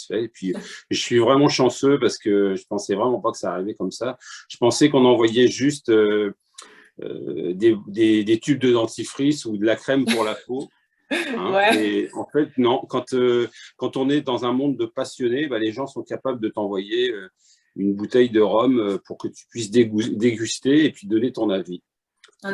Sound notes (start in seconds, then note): 10.0 laughter